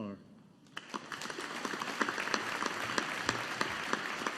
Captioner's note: audience applauding